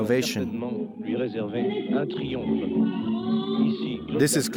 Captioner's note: French spoken audio